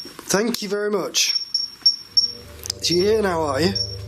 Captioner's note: beeping